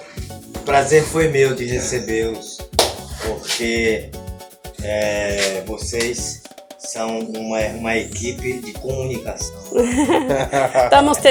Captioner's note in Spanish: risas